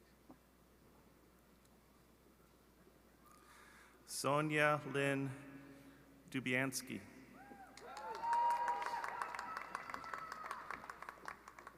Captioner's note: cheering d apause